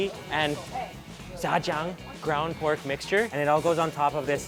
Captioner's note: speaks in a foreign language